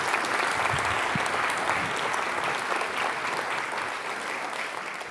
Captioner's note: applause